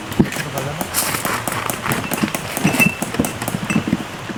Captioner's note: hammering peg sound